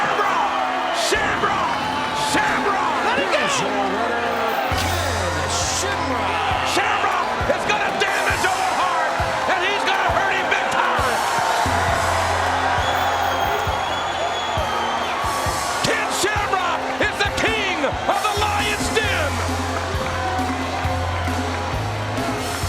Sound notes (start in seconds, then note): 11.9 crowd cheers; 19.9 crowd cheers